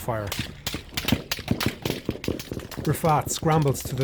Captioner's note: gunshots